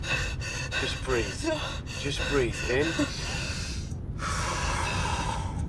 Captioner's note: Alyana breathing heavily; exhaling; inhaling